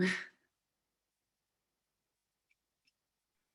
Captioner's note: giggling